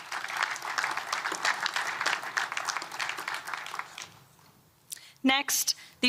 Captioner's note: applause